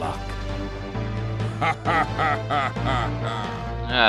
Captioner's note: deep cackle